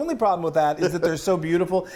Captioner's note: giggles